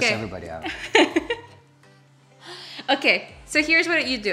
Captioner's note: laughs